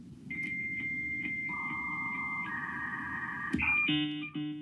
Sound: machine whirring

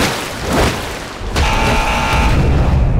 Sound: buzzing

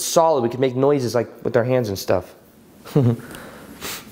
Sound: chuckles

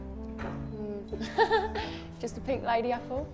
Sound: laughs

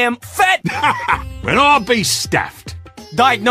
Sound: laughs

